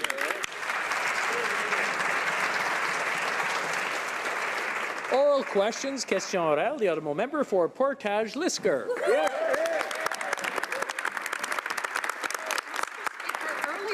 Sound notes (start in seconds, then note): 4.6 some Applause; 9.4 speaking French; 13.7 some Applause